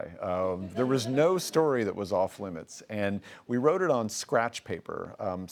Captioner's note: laughing